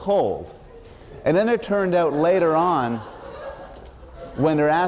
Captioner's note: laughter